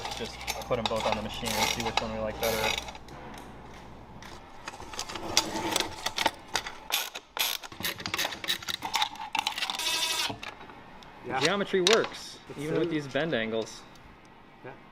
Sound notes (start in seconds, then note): 7.4 ratchet turning; 9.9 drilling